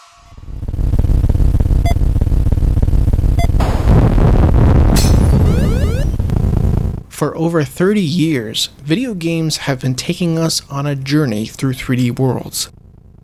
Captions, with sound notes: [8-bit engine rumbling] [shot fired] [explosion] [glass breaking] For over 30 years, videogames have been taking us on a journey through 3D worlds.